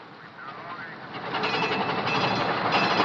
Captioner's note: bell dinging